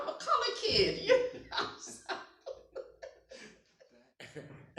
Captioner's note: laughs